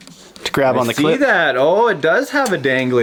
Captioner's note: voiceover